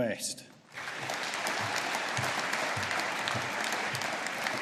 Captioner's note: audience applauding